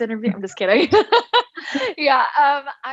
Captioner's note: laughs